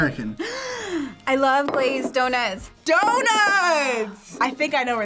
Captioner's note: gasps